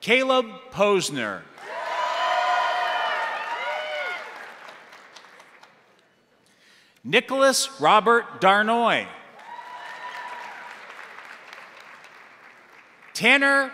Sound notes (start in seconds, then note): 1.5 crowd applauding; 1.6 crowd cheering; 9.3 crowd cheering; 9.3 crowd applauding